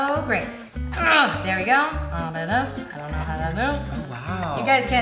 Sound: grunts

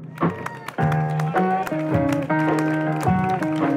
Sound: clapping and cheering

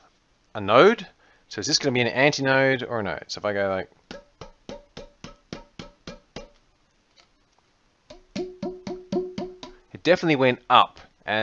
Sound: tap tap

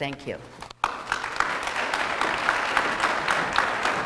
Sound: applause

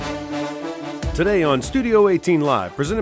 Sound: voiceover

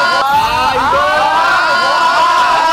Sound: screams coming out because of the showy dance

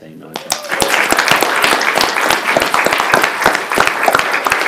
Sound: applauding

